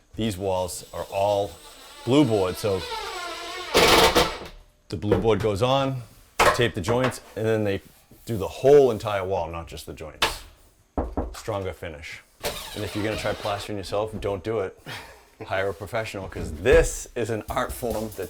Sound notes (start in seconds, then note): 11.0 bangs the wall